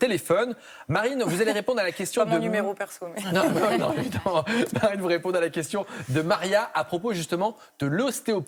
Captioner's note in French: rires